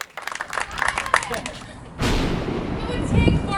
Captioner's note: cheers; thunderclap